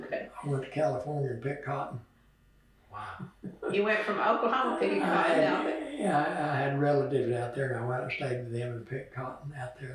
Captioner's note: laughs